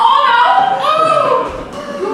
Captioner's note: delighted noise